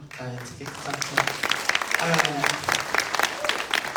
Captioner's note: applause